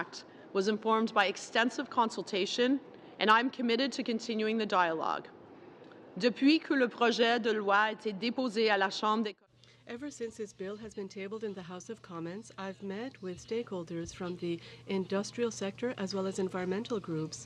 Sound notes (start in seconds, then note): 11.0 speaking french